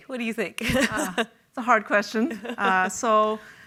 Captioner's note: chuckles